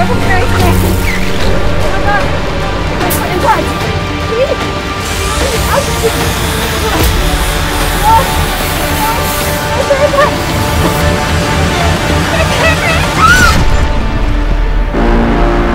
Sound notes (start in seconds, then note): 5.7 woman grunts; 8.7 woman moans; 13.0 screams